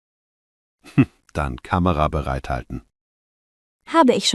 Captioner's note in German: lacht